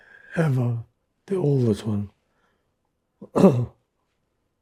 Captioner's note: clears throat